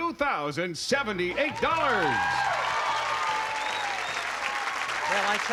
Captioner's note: cheering